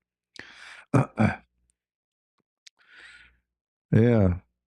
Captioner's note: berdehem